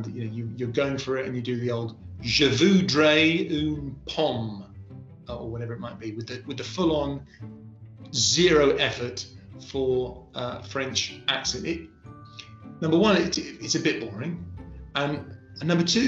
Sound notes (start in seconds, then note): 3.1 speaking french